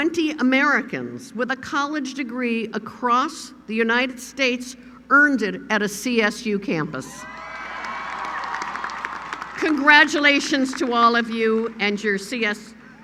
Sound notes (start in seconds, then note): 7.2 applause